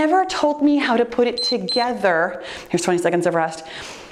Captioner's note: timer beeps